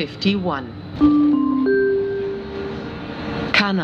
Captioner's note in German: Gong